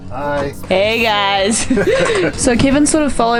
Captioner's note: laughs